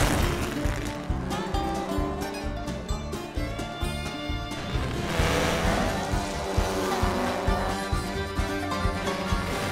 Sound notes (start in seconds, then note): 5.3 engine grumbles intensifies